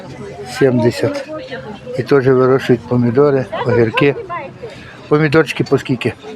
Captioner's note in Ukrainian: сміх